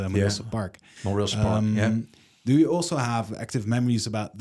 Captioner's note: none